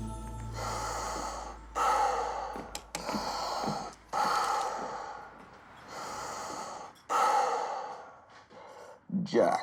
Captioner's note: heavy breathing